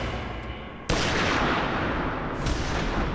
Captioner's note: gunshot